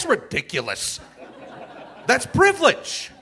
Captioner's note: audience laughing